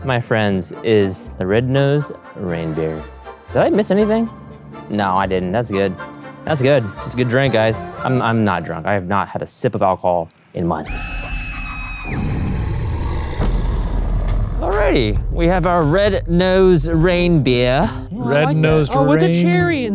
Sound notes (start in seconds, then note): 11.0 woman screaming; 11.9 beast growling